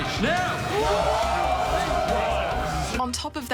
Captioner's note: cheering